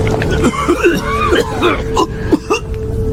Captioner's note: coughing